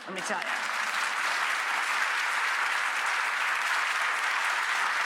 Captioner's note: audience applauds